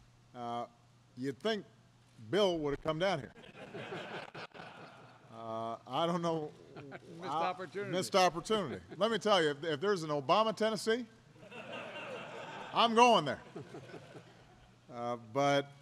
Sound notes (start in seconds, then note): 3.4 laughter; 11.4 laughter; 14.7 laughter